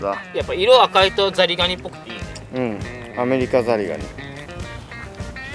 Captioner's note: laughs